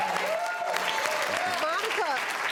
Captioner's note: applause